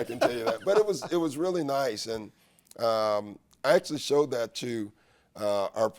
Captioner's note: laughs